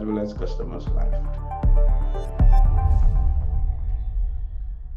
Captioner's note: sound effect